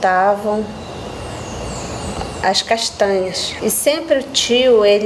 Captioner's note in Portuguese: pássaros cantando